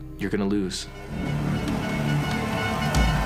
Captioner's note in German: Stadionhupen, düstere Musik